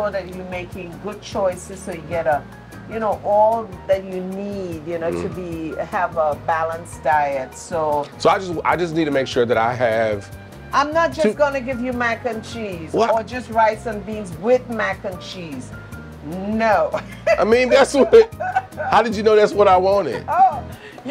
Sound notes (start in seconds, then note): 16.9 laughs